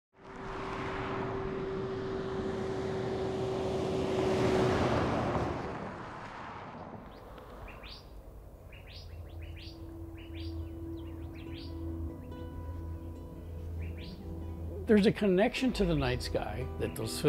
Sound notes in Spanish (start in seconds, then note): 1.7 carros en marcha; 6.2 pájaros cantando